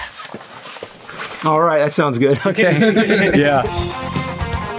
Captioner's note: laughter